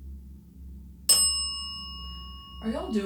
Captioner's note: bell dings